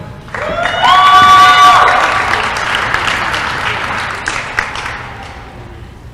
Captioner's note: applause & cheering